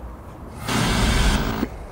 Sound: tv static buzzes

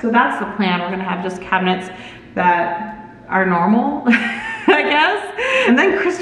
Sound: laughs

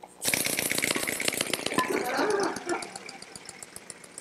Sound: mechanical clicking

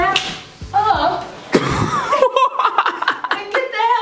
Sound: laughs

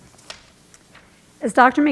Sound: pages rustling

